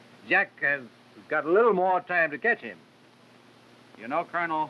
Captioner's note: none